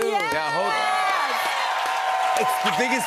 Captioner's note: cheers and applause